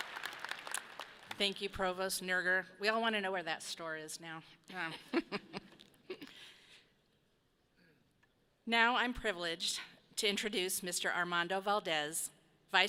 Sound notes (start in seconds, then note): 5.0 people chuckle